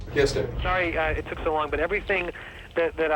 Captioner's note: on phone